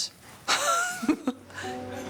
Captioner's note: laughs